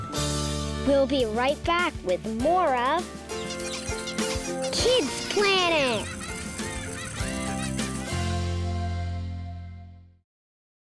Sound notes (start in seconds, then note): 3.3 squeaking; 5.7 children laughing